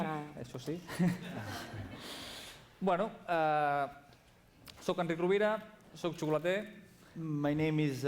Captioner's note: non-english speech